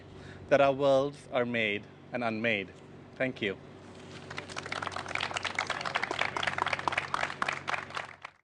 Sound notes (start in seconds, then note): 4.3 audience applauses